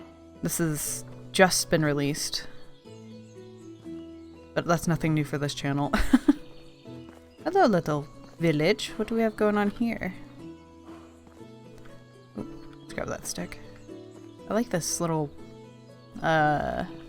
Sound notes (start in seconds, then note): 6.0 laughs